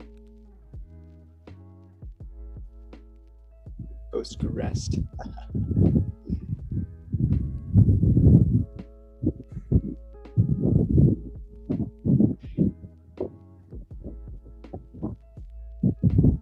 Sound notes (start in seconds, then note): 7.4 wind blowing; 8.2 slow-tempo keyboard music